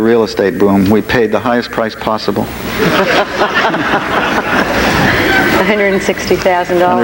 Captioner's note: audience laughs